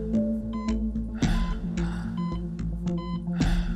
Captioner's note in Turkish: Yaşam destek cihazı çalışıyor